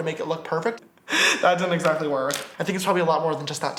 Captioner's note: laughs